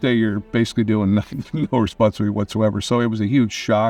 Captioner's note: chuckling